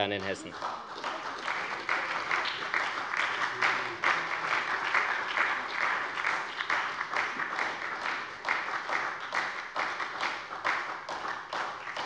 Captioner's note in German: Beifall bei der SPD